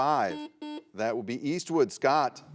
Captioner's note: buzzer buzzes